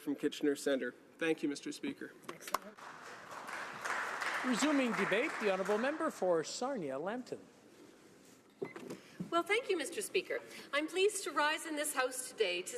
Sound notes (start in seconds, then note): 6.3 some applause